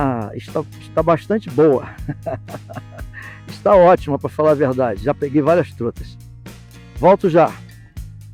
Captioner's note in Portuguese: risadas